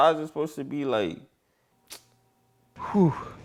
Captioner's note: sucks teeth